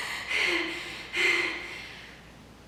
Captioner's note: heavy breathing